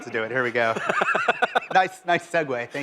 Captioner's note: laughter